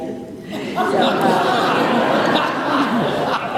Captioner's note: laughter